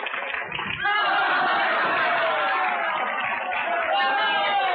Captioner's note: audience laughs loudly